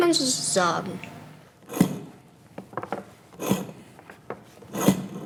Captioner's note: grinding pulling sound, steady tapping